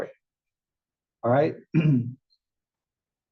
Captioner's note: cough